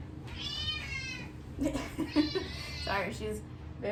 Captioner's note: cat frantically meowing